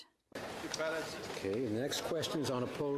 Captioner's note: speaking French